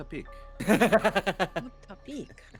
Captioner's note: Cornette laughs